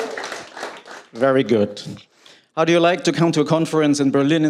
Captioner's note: cheers and applause